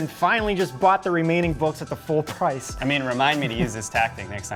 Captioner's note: laughs